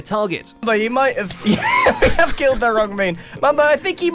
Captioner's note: startled laugh